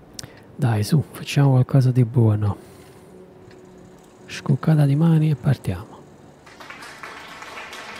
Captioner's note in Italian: Applauso